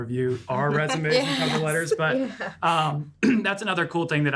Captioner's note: laughing